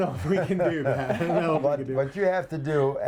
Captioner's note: laughing drowns out other sounds